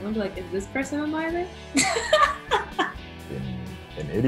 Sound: laughter

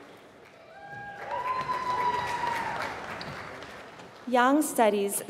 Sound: applause

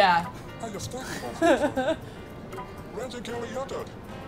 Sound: laughing

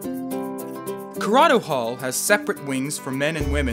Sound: voiceover

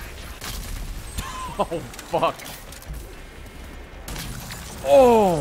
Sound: laughs

